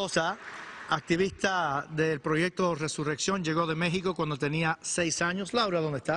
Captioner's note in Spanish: aplausos